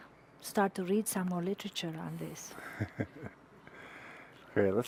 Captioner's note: chuckles